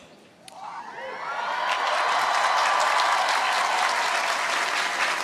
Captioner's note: cheering